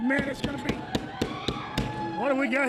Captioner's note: hits table